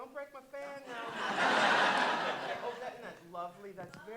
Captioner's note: audience laughing